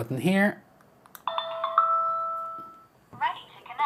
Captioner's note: phone ringing